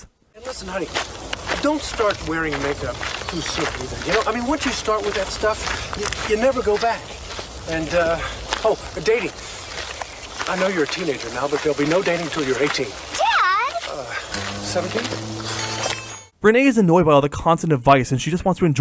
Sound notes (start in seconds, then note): 15.2 sigh